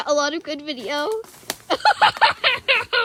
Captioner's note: tittering; foliage sounds intensify, a stick snaps; guffaws